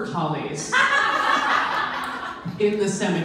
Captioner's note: audience laughs